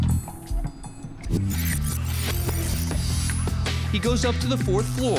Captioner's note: rewind sounds